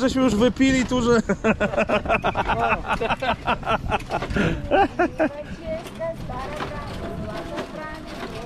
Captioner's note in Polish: śmiech